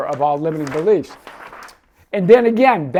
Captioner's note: pages fluttering